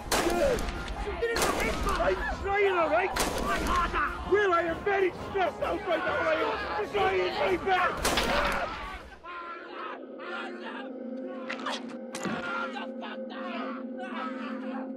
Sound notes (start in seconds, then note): 0.0 gunshots booming; 8.0 gunshots booming; 12.0 gasping